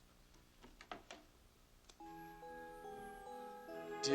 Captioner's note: laughing